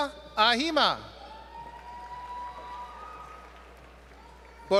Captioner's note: applause